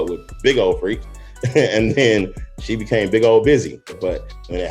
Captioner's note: laughing